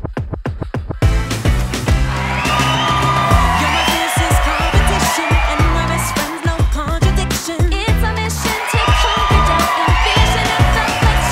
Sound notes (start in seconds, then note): 0.1 pop music; 2.5 crowd cheering; 7.6 pop music continues